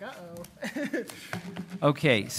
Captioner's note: laughs